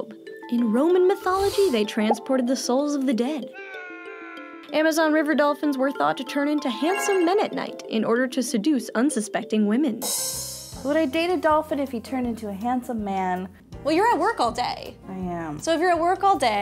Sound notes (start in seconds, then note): 3.6 screaming; 10.2 cymbal clash